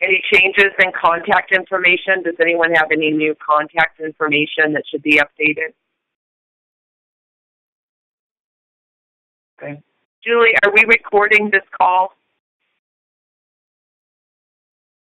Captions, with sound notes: Any changes in contact information? Does anyone have any new contact information that should be updated? (Silence.) Okay. Julie, are we recording this call?